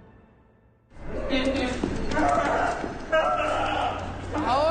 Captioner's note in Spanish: Gritos